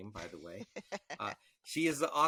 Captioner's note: laughing